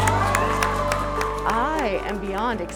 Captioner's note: cheers and applause